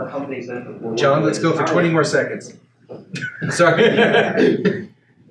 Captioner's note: laughs